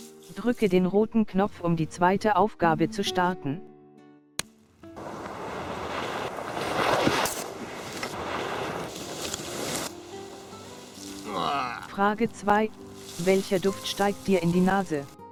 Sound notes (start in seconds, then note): 4.2 click